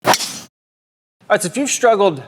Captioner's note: club striking golf ball